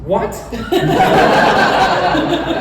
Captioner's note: laughter